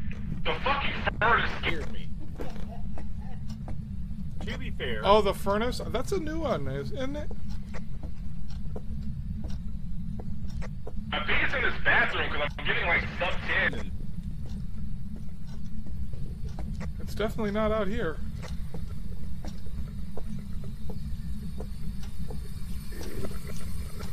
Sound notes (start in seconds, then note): 2.2 laughing; 7.5 strange burbling noise